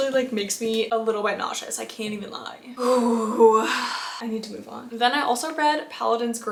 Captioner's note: sighs and gasps